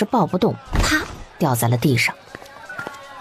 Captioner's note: thud